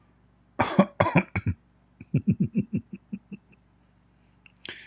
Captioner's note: Ketawa